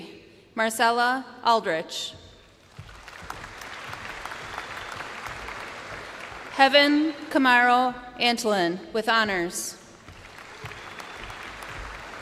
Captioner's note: names being called